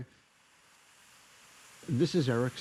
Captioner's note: rain